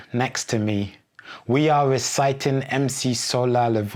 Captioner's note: speaking a foreign language